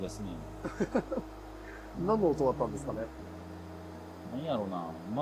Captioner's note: laugh